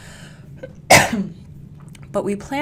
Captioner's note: coughs